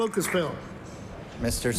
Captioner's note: applause